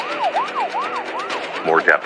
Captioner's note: siren wailing